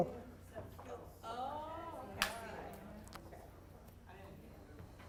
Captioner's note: people chattering